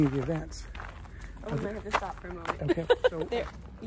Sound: laughs

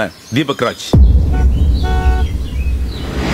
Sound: horn blares

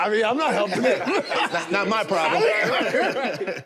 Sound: group laughs

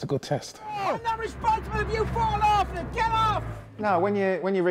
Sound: shouting

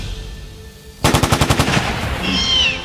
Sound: shots fired; velociraptor sounds

